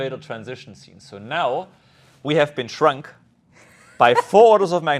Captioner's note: laughs